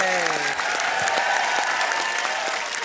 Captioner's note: cheering and applause